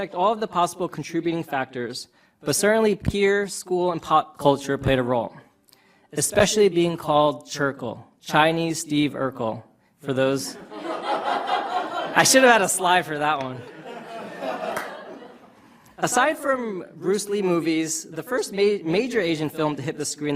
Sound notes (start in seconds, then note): 10.5 audience laughter